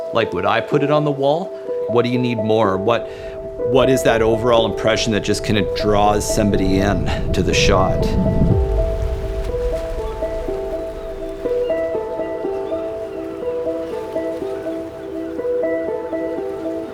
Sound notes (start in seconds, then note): 9.4 nature ambience